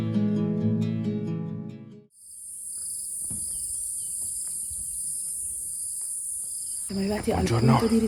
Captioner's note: noise of crickets